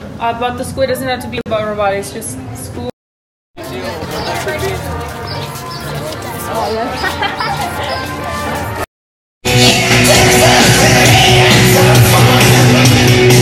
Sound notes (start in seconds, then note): 3.6 laughing